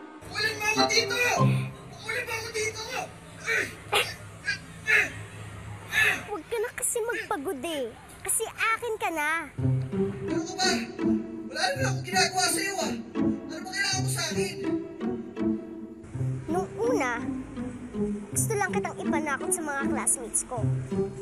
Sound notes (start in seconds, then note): 3.4 Ikong grunts; 3.9 Bubbles snickers